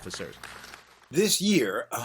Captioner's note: applause